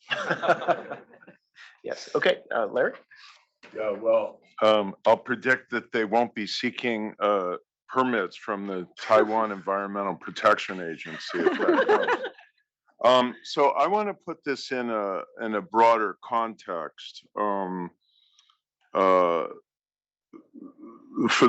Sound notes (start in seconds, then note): 0.1 laugh; 13.1 laugh